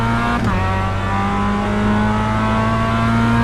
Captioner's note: engine revving